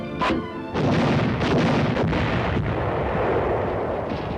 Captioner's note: artillery firing